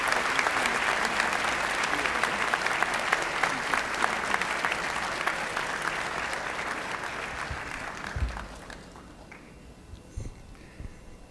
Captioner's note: applause